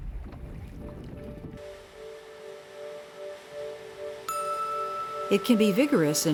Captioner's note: water streaming; gentle music